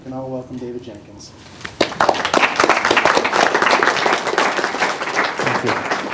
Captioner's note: applause